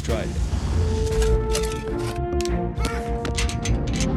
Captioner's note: men shoveling and shouting